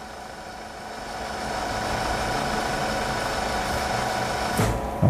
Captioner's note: printer machine noise